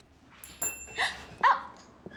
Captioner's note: bell rings